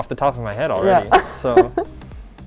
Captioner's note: laughs